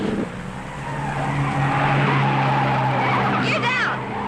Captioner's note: tires squealing